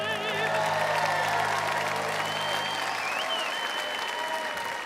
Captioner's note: audience cheering